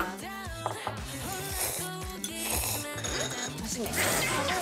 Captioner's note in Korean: 후루룩